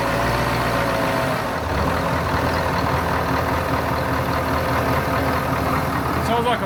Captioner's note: engine noise